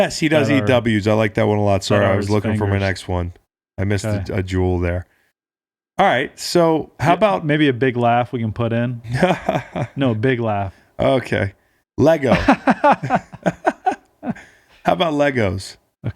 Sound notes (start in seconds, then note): 9.0 laughing; 12.3 laughing